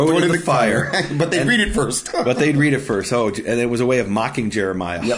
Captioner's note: laughing